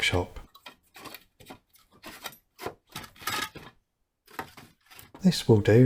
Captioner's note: noise of wood being moved around